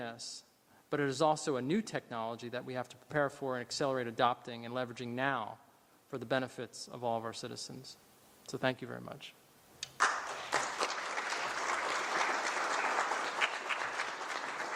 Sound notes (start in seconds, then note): 9.9 applause